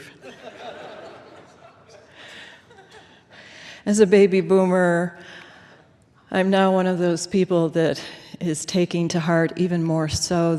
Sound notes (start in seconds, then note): 0.0 laughter